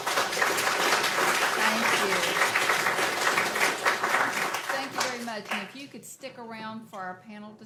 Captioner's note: applause